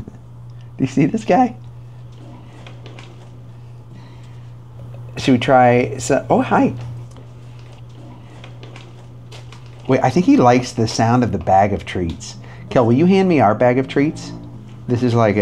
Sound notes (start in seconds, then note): 2.7 treat bag crinkles; 9.2 treat bag crinkles